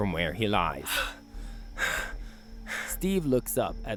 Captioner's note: heavy breathing